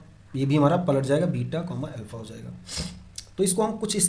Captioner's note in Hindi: नाक से की जाने वाली आवाज़